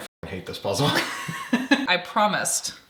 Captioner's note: both laughing